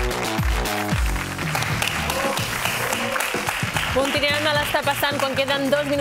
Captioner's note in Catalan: aplaudiments